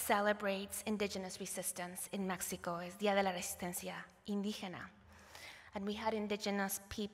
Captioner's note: non-english